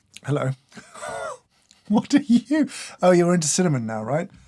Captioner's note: slurp; laughs